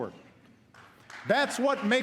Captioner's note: applause